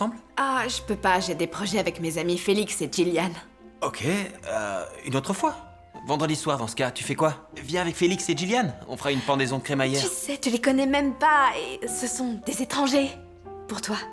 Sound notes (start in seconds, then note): none